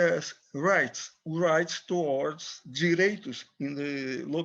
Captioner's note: speaks in foreign language